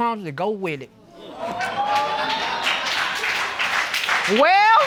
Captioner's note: audience exclaiming and applauding